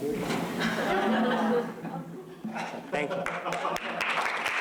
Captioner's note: laughter; applause